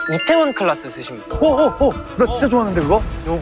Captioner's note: heart starts racing